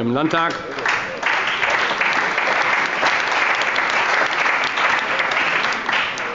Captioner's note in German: Allgemeiner Beifall